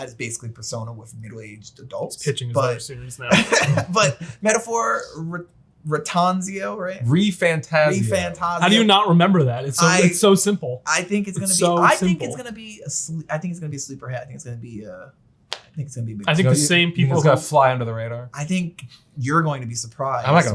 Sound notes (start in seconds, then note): 3.0 laughs